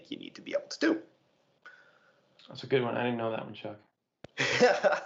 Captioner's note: laughter